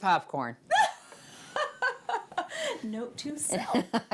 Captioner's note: laughing